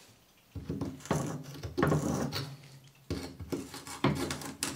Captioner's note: cracking